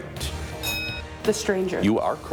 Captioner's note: bell rings